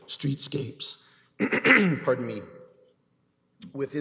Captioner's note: coughs